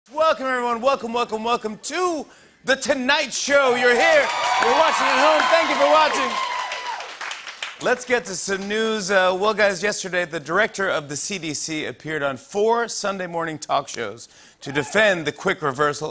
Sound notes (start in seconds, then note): 3.7 cheers and applause